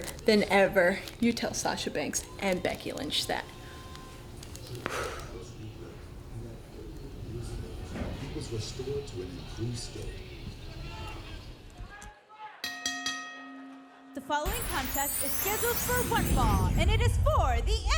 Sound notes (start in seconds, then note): 12.6 bell rings